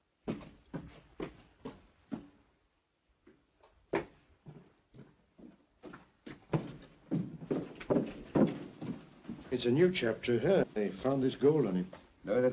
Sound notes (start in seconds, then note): 0.2 footsteps up stairs; 3.9 Joss's footsteps; 6.5 door opens; 7.5 Joss's footsteps